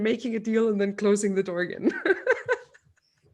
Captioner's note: laughs